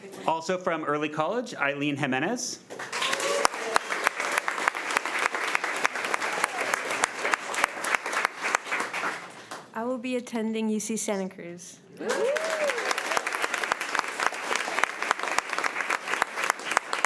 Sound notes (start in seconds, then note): 2.7 crowd cheering and clapping; 12.0 crowd clapping